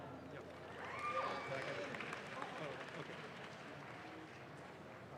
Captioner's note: audience claps